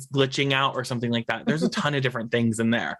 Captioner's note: laughs